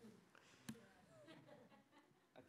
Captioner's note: laughter